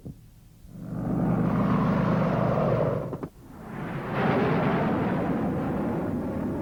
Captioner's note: helicopter whirring; missile roaring